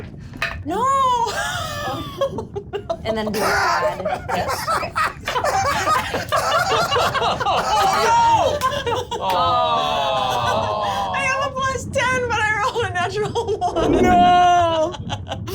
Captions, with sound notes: (laughing) - And then you add this. - Oh no! - Awww! - I have a plus 10, but I rolled a natural one. - No!